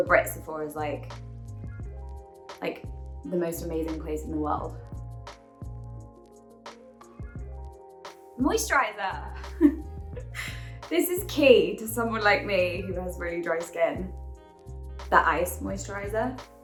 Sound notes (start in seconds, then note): 5.1 chill music; 9.4 giggles